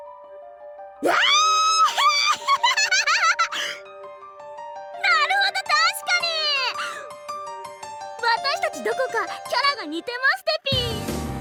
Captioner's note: giggle